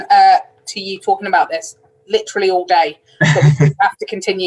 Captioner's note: laughs